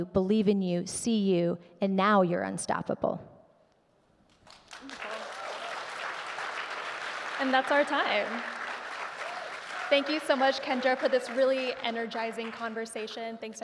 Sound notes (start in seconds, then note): 4.5 audience clapping